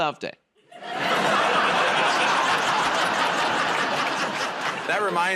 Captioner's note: laughter